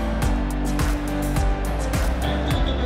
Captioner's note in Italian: Applauso